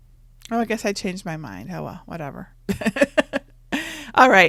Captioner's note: laughs